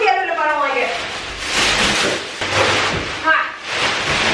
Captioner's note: plastic rustles